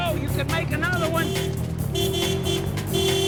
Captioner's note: car horn honking